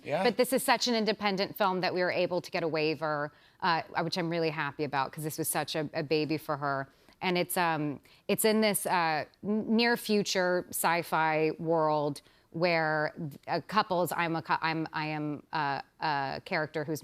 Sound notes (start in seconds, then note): none